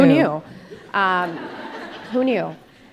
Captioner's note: audience laughing